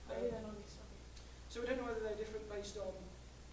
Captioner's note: voiceover